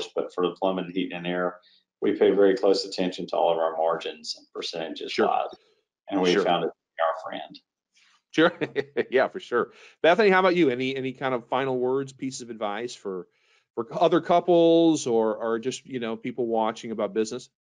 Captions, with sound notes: but for the plumbing, heating and air, we pay very close attention to all of our margins and percentages a lot. - Sure. Sure. - And we found it to be our friend. - Sure. Yeah. For sure. (laughs) Bethany, how about you? Any kind of final words, pieces of advice for other couples or just people watching about business?